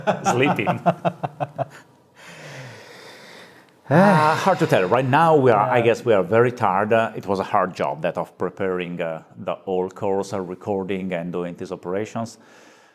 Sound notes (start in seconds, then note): 0.0 laughing; 3.8 both sigh